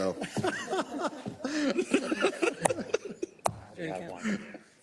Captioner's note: laugh